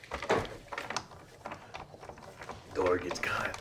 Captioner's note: doorknob rattles